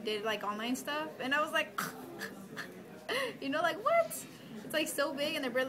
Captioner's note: chuckles